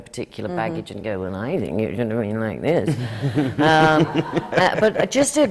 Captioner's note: does a pinched little voice